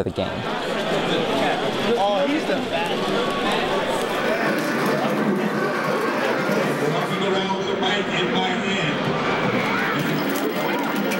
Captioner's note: crowd noises